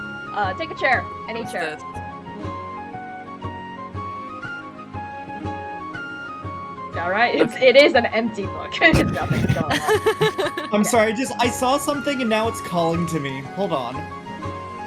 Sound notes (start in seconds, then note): 8.9 laughs